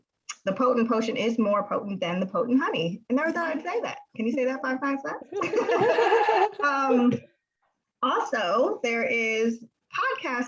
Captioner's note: laughs